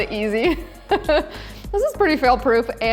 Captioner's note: laughing